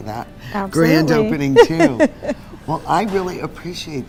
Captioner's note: laughs